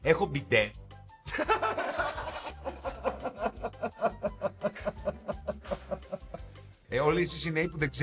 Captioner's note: laughs